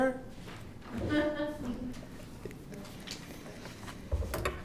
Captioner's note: laughter